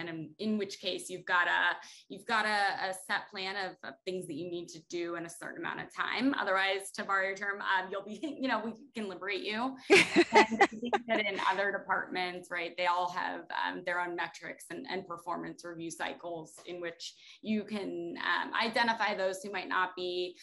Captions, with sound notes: And in which case you've got a, you've got a, a set plan of things that you need to do in a certain amount of time, otherwise to borrow your term, you'll be, you know, we can liberate you (laughter) in other departments, right? They all have their own metrics and performance review cycles in which you can identify those who might not be